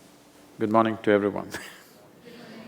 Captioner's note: laughs